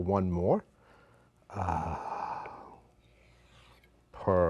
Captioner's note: sighs